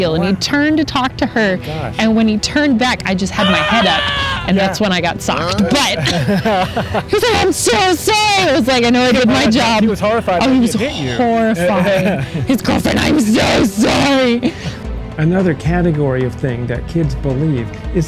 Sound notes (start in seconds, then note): 3.4 screaming; 5.3 laughing; 10.8 laughing